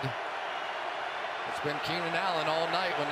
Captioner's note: cheering